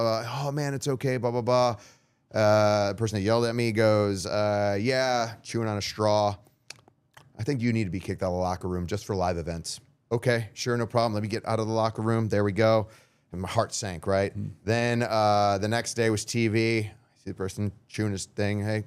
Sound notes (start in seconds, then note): 6.7 chomping